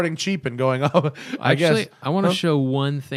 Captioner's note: laughter